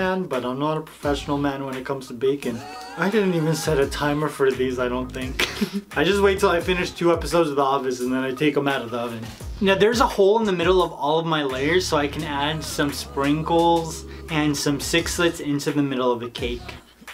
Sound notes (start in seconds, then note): 5.3 laughs